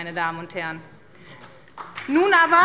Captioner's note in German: Beifall bei der SPD und der LINKEN